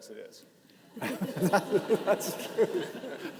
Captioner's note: participants laughing